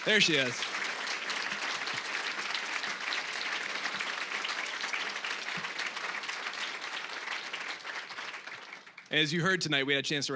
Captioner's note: applause